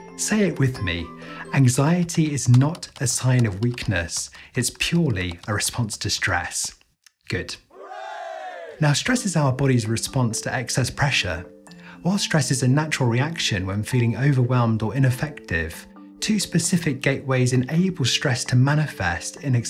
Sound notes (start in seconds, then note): 7.7 crowd